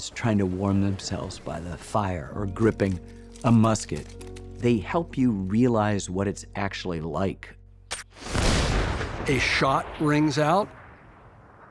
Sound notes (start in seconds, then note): 8.2 shot booms